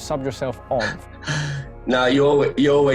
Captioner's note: laughs